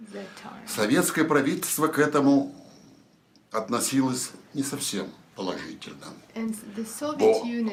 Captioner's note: foreign language